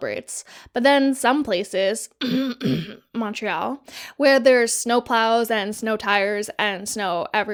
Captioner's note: cough cough